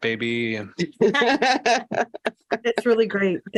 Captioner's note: laughter